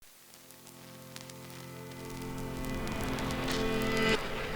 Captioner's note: narrator voice, low and measured